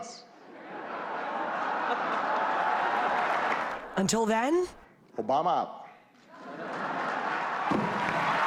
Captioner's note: laughter